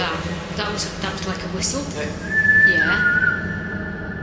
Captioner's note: loud whistling